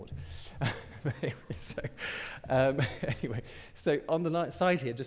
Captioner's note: chuckles